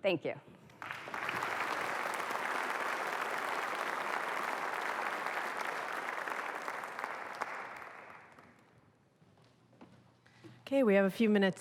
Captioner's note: applause